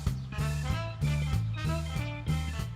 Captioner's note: none